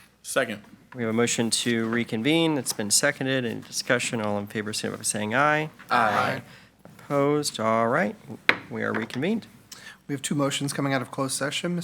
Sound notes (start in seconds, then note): 8.8 gavel bangs